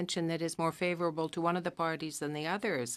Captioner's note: speaking French